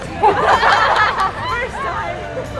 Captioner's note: team laughing